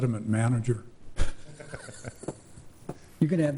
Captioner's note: laughing